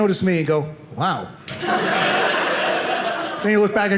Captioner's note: audience laughing